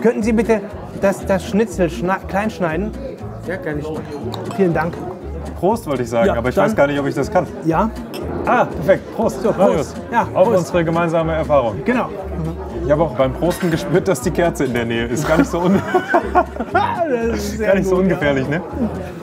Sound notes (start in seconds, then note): 8.2 clinking; 15.1 laughter